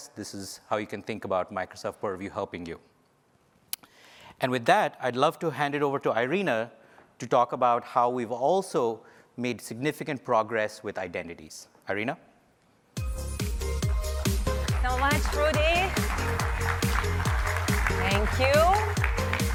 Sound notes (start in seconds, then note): 14.1 applause